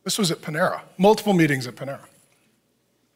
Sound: none

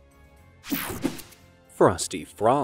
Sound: logo snaps

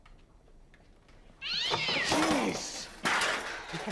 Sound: cat yowling

